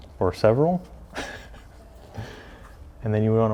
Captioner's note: laughs